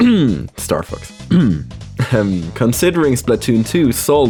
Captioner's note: cough